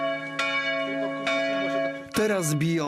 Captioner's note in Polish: Dźwięk dzwoniącego dzwonu